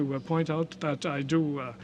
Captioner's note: speaking French